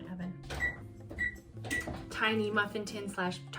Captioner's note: oven beeping